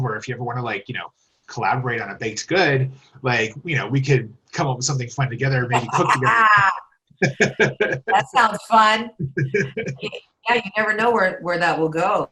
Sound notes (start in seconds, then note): 5.4 laugh; 9.2 laughs